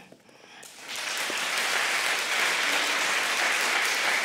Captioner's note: applause